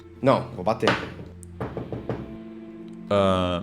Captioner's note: knocks